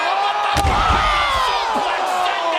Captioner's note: commentators exclaim